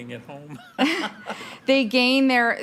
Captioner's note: laughing